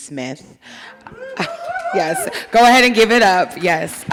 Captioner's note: audience applauding